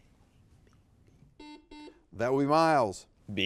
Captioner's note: buzzer beeping